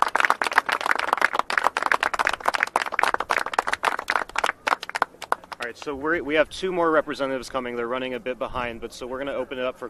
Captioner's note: applause